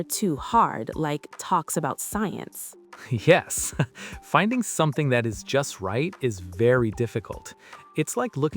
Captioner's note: laughs